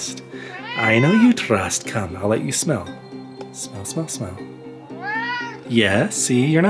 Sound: meowing

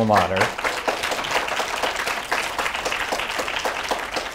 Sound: audience applauding

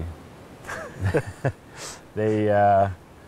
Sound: laughs

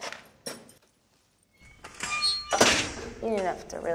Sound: lock clicks

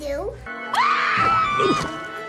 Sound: screaming

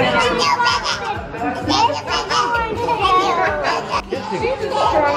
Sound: kids murmuring

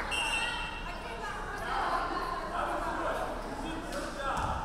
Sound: referee whistling

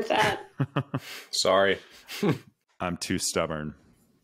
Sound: laughs

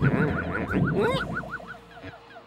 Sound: squeaks

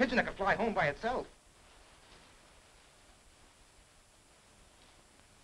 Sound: rain pattering

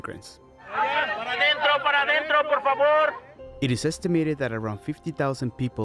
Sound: speaking foreign language

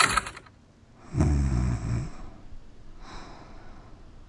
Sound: deep snoring

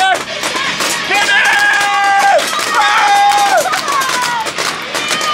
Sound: yells; paintball guns shooting; girl yelling

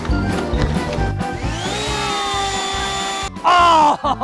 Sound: lawnmower running; upbeat music; leaf blower running; laughing

